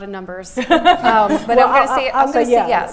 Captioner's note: laughing